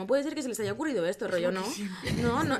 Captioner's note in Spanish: risas